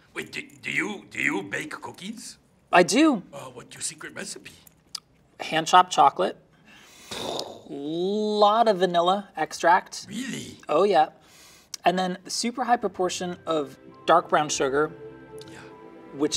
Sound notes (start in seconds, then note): 7.3 Cookie Monster mimics mind blowing explosion; 12.9 soft dreamy music